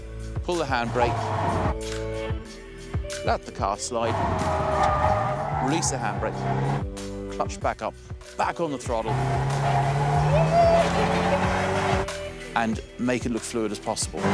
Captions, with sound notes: Pull the handbrake. [SOFT MUSIC] Let the car slide. [TIRES SCREECHING] Release the handbrake. Clutch back up. Back on the throttle. [SCREAMS] And make it look fluid.